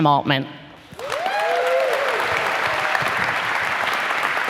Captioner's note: applause